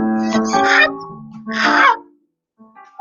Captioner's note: shrieks, screams, hoots